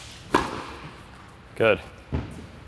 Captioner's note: ball thumps